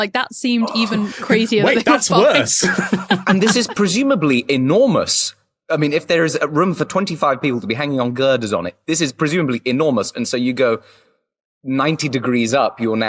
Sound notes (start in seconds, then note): 0.7 both laugh